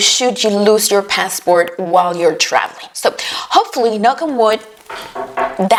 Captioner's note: knock on wood